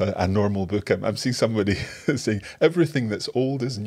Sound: laughs

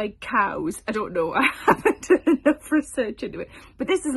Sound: chuckles

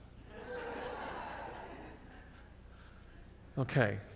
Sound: audience laughs

